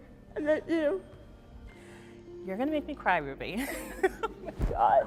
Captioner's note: laughs